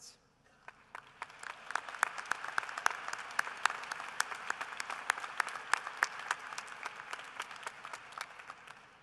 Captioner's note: applause